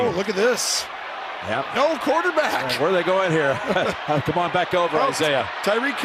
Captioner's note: both laugh